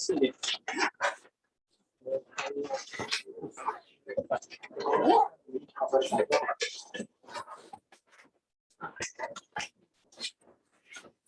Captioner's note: background chatter